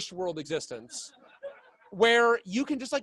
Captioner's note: laughing